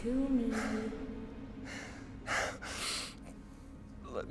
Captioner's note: gasping, Labored Breathing